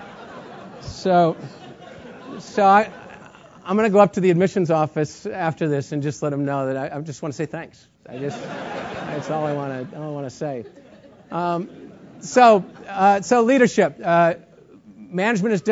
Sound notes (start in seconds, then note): 8.2 laugh